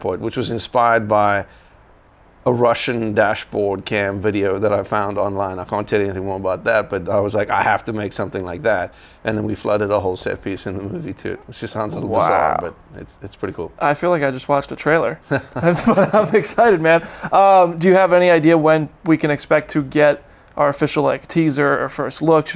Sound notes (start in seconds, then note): 15.2 laughter